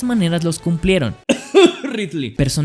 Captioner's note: cough cough